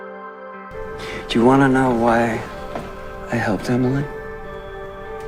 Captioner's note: voiceover